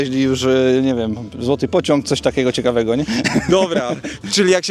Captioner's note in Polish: śmiech